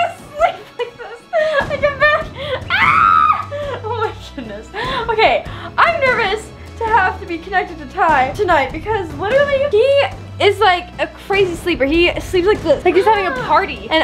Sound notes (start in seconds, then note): 2.7 screaming